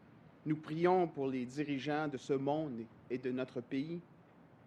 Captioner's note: speaks French